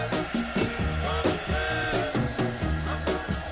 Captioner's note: dryer whirring